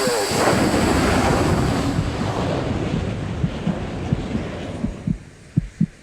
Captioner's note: engine bursting; heartbeat thumping